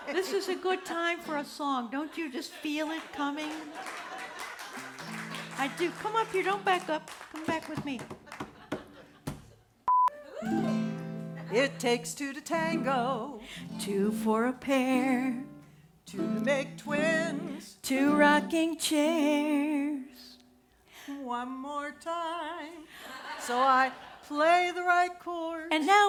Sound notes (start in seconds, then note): 2.9 audience applause